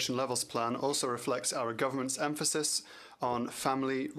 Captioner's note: speaking French